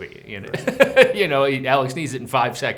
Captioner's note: Brad laughs